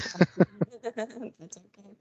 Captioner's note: people laughing